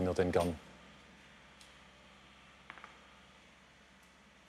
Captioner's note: distant excavator hum